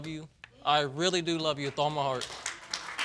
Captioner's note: audience applauds